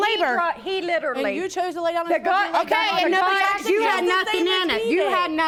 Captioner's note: all arguing